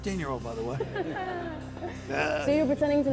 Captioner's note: laughter